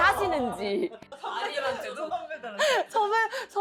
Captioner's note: laughing too much to speak